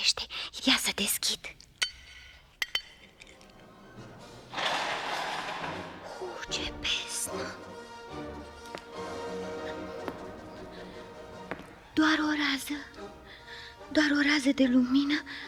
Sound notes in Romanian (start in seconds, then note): 4.6 Aplauze